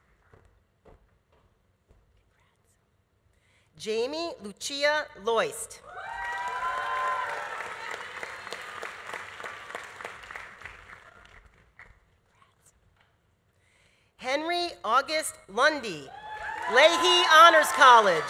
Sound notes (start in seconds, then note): 5.8 audience cheering; 6.0 audience applauding